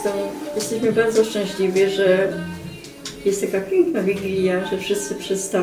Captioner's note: grandma speaking in Polish